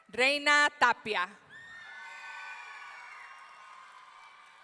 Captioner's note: audience cheering